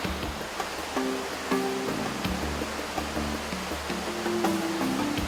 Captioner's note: happy music; sound of waterfalls